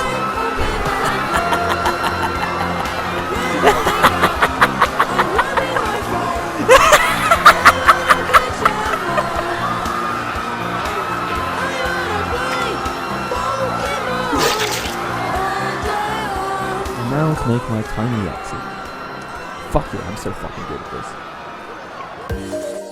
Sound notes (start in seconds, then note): 0.0 Keyaru laughing maniacally while the crowd screams and Flare continues singing; 15.3 screaming and singing, you know the drill